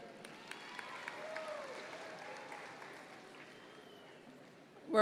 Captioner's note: audience members cheer